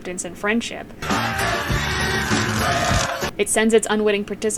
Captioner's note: screaming